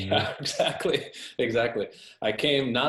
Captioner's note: laughs